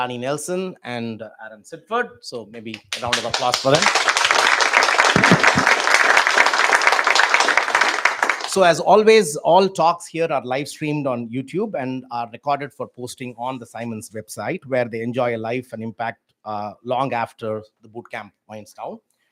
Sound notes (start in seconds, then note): 2.7 applause